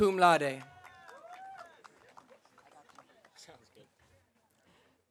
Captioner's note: audience applauding